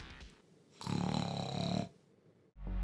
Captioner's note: snoring continues; suspenseful music